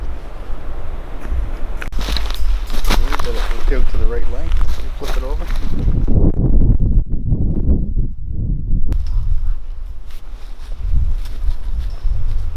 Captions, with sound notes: - Then when you get it to the right length, you flip it over. (wind blowing) (dirt rustling)